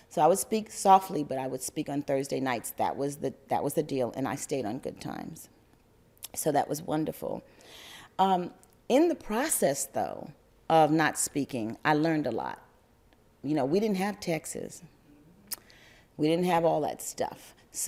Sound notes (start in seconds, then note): none